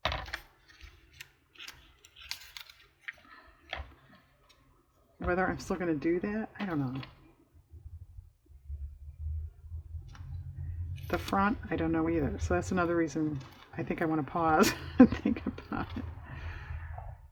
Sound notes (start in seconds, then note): 14.3 laughs